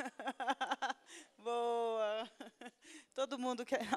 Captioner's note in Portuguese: risos